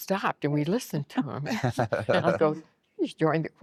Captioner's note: laughing